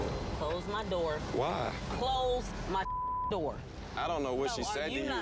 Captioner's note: beep